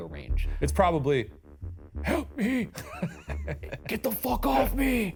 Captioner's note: laughs